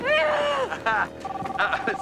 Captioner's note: Nick and Loretta shouting excitedly